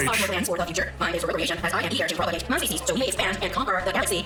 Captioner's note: fast speaking